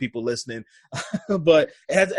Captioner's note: laughs